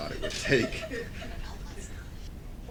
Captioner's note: background laughter